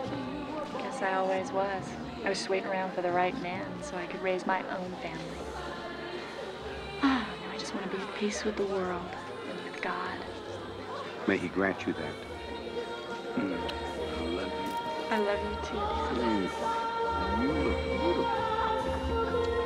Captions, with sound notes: GUESS I ALWAYS WAS. I WAS JUST WAITING AROUND FOR THE RIGHT MAN, SO I COULD RAISE MY OWN FAMILY. [sighing] NOW I JUST WANT TO BE AT PEACE WITH THE WORLD AND WITH GOD. MAY HE GRANT YOU THAT. I LOVE YOU. I LOVE YOU, TOO, DAD. HMM. AND YOU LOOK BEAUTIFUL.